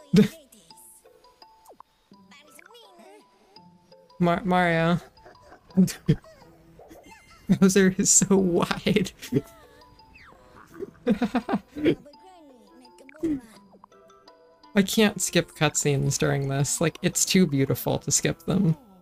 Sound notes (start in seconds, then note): 4.9 laughing; 5.1 breaks into laughter; 10.1 chortle; 10.5 laughs again